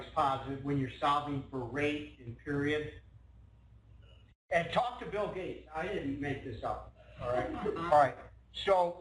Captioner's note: laughing